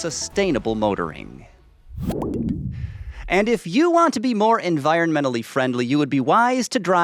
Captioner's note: Volvo sound